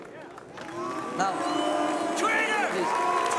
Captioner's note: members booing